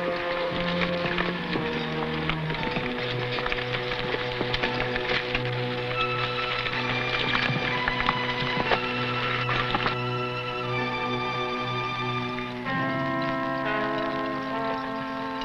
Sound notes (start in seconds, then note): 4.9 horse hooves pattering; 10.6 tense music